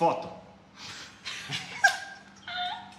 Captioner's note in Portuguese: Risadas